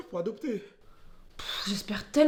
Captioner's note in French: soupir